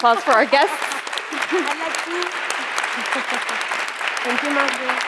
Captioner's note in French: applaudissements